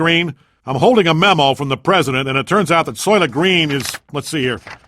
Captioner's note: paper rustling